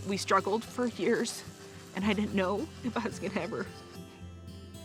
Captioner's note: says tearfully